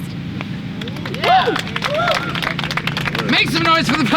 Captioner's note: audience cheers and applauds